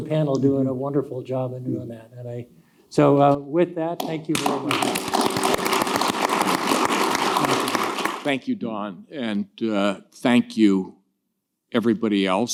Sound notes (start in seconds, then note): 5.7 audience clapping